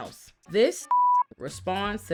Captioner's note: beep